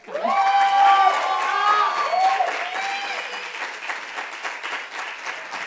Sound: loud applause and cheers

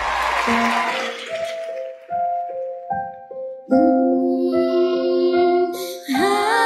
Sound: audience appluading and cheering Music beginning to play

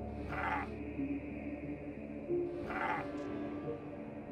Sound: roaring

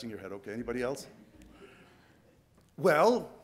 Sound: soft laughing

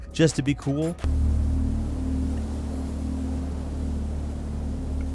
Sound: wind whistles

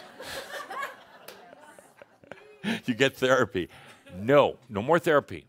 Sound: more chuckles

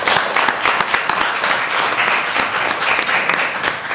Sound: applause

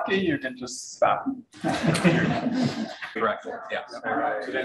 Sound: room laughs

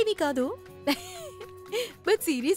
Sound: chuckles

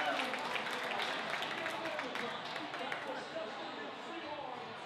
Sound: crowd applause

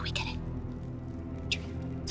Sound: whispering

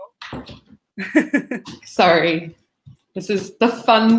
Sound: laughs

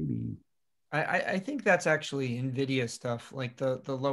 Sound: calm Voice

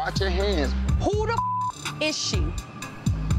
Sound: beep

